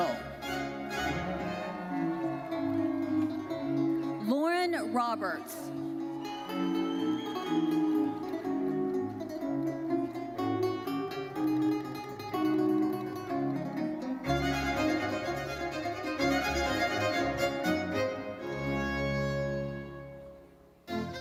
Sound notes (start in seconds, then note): 0.2 lively uplifting music continues; 0.8 audience cheering; 6.1 audience member whistles; 8.2 lively uplifting music continues; 18.2 lively uplifting music fades